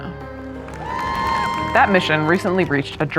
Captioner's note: cheering